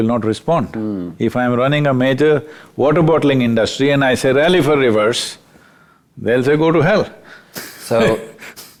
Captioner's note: laughs